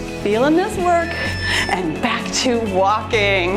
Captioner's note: timer beeps